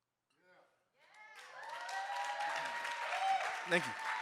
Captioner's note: audience cheering and applauding